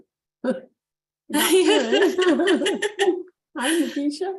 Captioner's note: laughing; chuckles